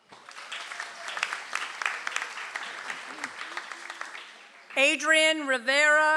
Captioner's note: audience applauds